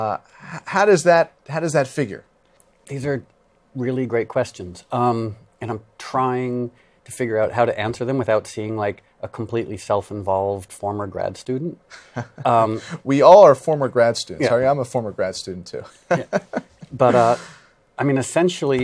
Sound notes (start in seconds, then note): 13.1 laughs; 16.0 laughs